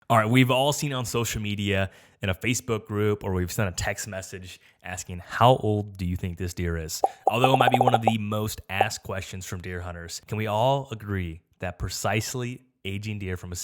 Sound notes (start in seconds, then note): 7.0 rhythmic pops